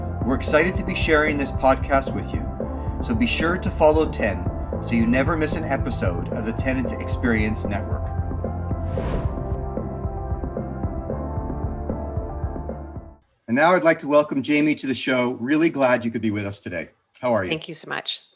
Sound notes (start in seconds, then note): 8.7 upbeat music; 8.7 air whooshing